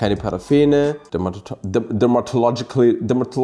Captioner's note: stutters